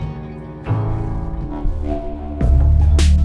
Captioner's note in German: Düstere, beklemmende Musik; Dröhnen; Rhythmische Musik